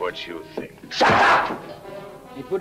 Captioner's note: hand slaps